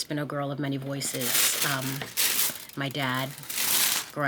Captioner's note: paper crinkling